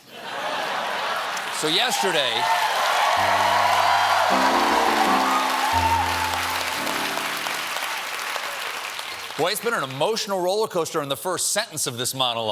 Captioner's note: cheers and applause